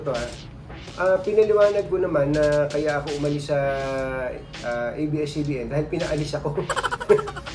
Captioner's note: laugh